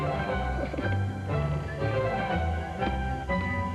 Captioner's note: chuckles